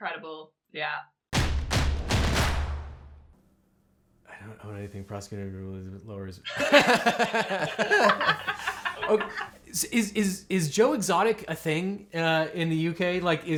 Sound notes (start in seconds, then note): 1.3 drums beat; 6.5 host laughs; 6.6 laughs